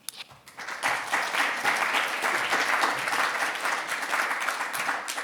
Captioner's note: audience applauding